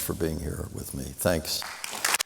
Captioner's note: applause